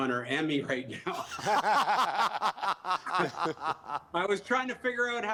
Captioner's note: laughter